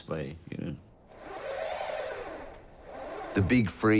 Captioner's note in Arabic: صوت محرك عربة الحليب